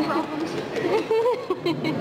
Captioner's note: laughter